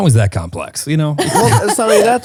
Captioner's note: laughing